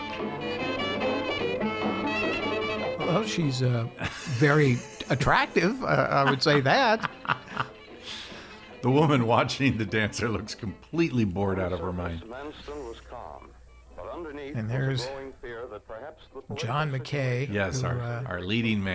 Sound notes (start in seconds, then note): 0.2 mellow music; 7.1 laughing